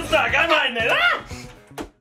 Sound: screams

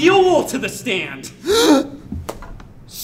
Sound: sighs

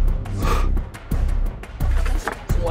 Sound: exhales

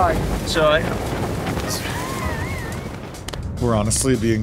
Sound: laughs

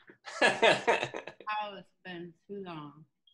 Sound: laughs

